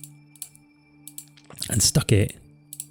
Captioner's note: clicks on mouse